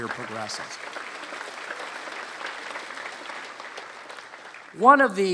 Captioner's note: applause